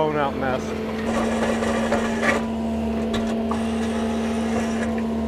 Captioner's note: machine whirring